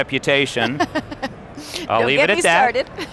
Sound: host laughing

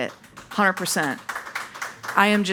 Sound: audience applauding

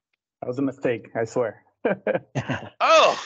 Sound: chuckles

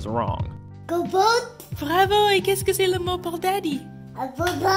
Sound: kid speaking French again; mom answers back in French; kid answers happily in English

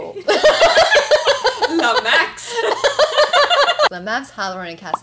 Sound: laughs

